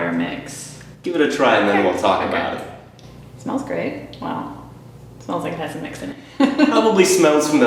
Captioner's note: chuckles